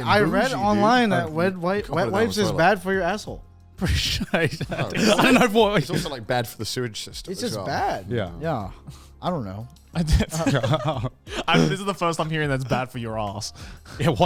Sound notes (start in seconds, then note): 3.8 laughs